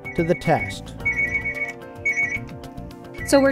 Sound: ringing

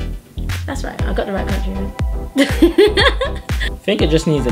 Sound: laughs

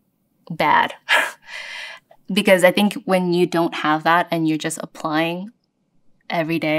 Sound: laugh

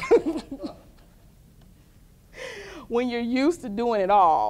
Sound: laughter

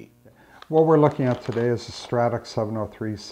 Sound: voiceover

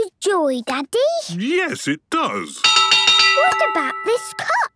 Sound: clanging

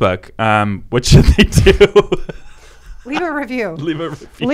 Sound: laughing

